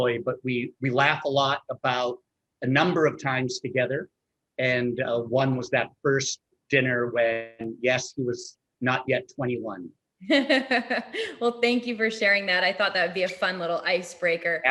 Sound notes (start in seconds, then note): 10.2 laughs